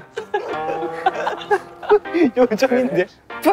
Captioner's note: unable to hold the laughter